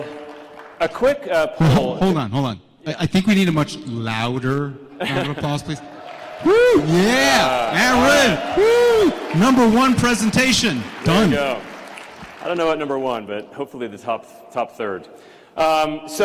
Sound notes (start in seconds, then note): 5.8 applause, cheers; 11.3 applause